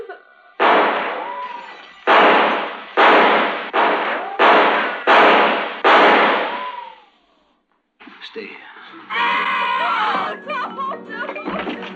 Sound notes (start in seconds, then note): 0.6 gunshot; 0.6 gunshots